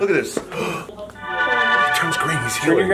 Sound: gasps

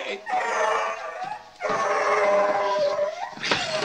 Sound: dog whimpering

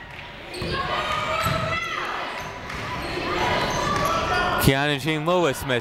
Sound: people shouting in the crowd

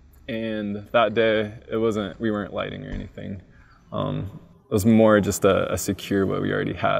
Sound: none

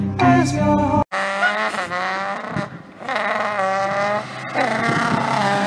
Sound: car exhaust noises

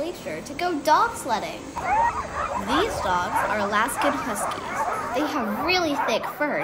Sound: barking

